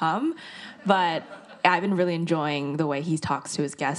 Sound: audience laughs

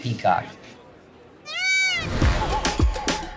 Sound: bird squawking; upbeat music

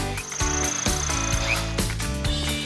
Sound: whirring

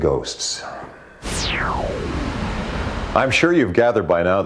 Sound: whooshing

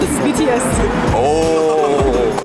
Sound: laughing

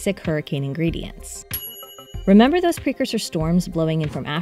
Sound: bell dinging

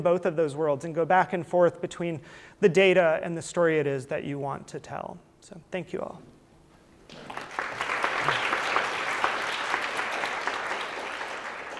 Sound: applause

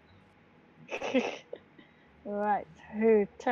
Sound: laughing

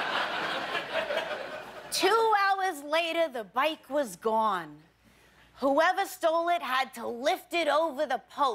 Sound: laughter

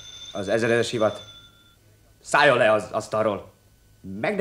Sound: bell rings

